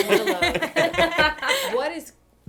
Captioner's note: laughter